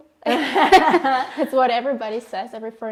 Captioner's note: laughing